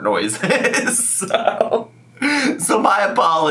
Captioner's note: laughs